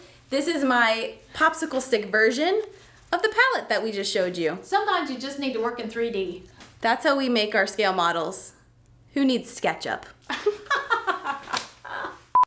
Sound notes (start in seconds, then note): 10.3 laughs; 10.4 beep